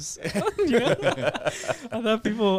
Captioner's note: laughing